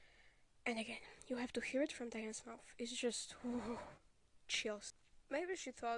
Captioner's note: excited huff